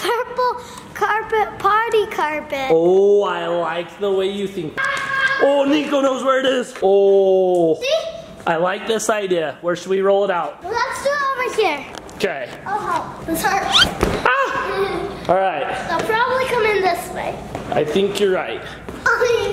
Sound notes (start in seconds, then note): 14.3 giggles